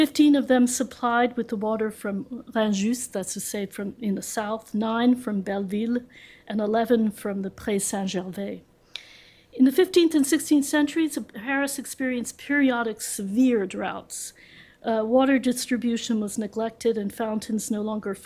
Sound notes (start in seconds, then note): 2.4 french